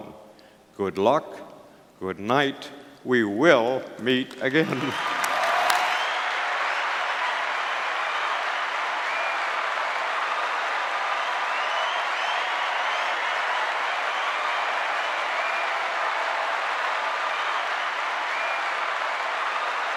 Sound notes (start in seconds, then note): 6.6 applause - continues